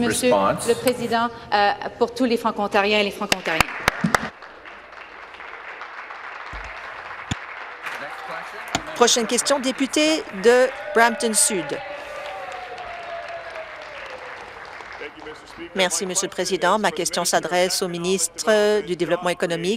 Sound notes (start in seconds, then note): 8.1 applause; 13.3 applause; 14.2 cheers